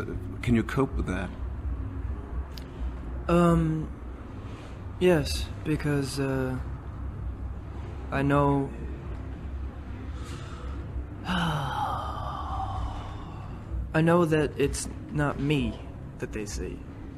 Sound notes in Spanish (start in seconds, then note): 10.1 Suspira